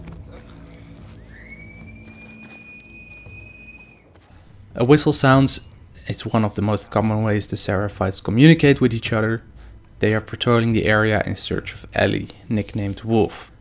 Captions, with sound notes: [Whistle sounds in the distance] A whistle sounds. It's one of the most common ways the Seraphites communicate with eachother. They are patrolling the area in search of Ellie, nicknamed 'Wolf'.